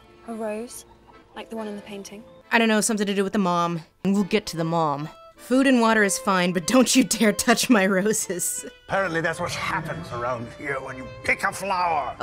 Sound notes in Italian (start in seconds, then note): 2.7 voce fuori campo